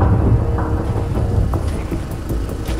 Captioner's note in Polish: Głos Silnika